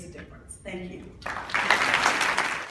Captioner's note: applause